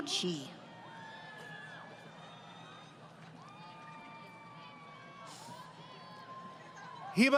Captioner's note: crowd Cheering